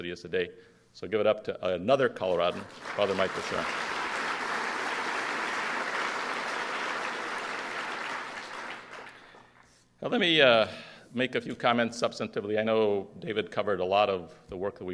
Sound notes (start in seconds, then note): 7.4 applause